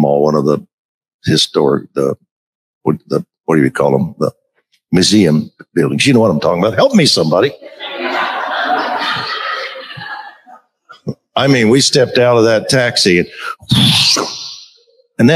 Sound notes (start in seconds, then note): 10.4 crowd laughs